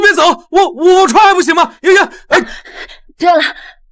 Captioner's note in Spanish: suspiro